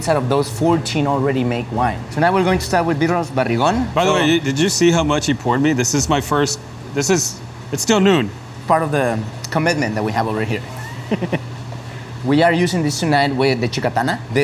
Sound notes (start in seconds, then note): 10.7 laughs